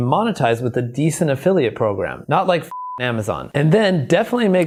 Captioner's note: beep